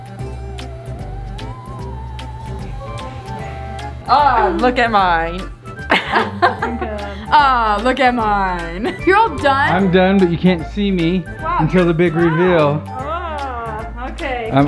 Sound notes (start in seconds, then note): 0.1 light playful music; 5.8 laughing